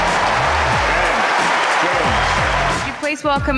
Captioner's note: cheering